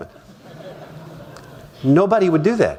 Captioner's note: laughter